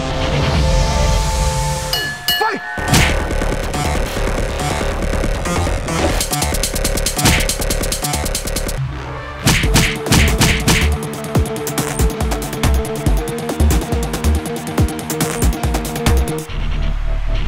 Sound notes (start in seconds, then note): 1.9 bell ringing; 2.9 boxing punch; 9.4 boxing punches